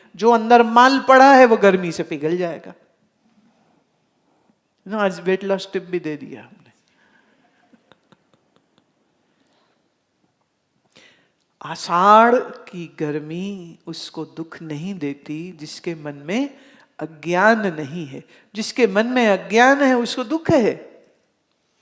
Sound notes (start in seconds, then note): 7.8 laughs